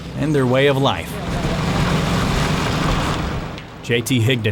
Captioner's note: car engine running